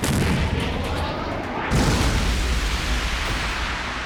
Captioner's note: explosion